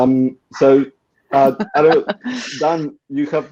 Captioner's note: laughing